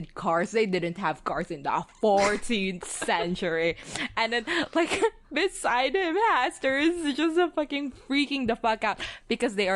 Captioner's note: laughs